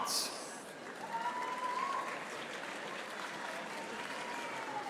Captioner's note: audience applauding